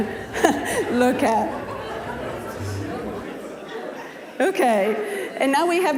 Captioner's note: audience laughing